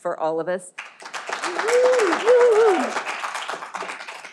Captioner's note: all applauding